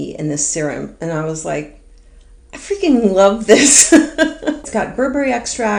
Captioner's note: laughs